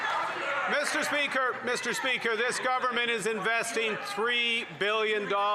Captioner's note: some Applause